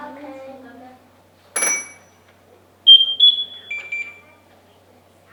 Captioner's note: suit chirping